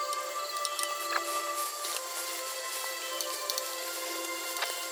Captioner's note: footsteps